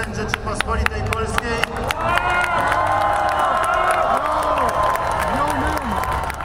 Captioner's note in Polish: Prezydent Andrzej Duda przemawia i oklaski